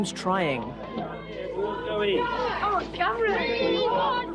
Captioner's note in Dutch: publiek gepraat